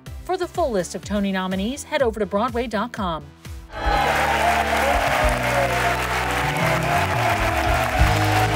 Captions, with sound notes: For the full list of Tony nominees, head over to broadway.com. (crowd cheering) (crowd applauding)